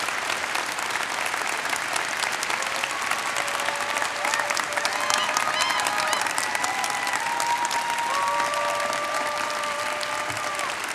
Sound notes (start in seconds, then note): 0.0 audience applauding; 0.0 audience cheering